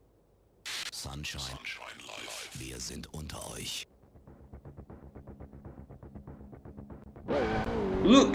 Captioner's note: German Radio in-game